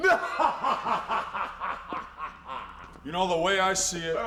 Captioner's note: Hogan laughs